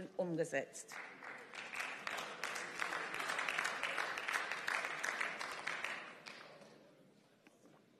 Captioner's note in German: Beifall